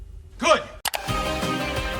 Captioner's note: mouse clicks